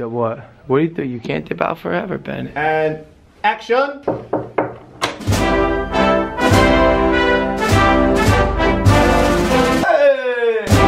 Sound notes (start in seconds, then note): 4.0 3 knocks on the door; 4.5 presidential music plays